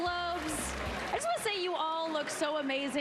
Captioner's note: applause